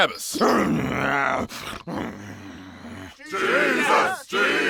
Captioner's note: Jesus Barabbas grunting; crowd